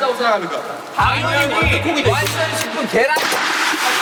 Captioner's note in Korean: 짝짝